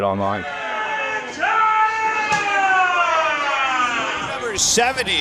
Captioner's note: screams